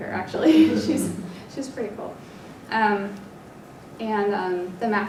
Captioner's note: laugh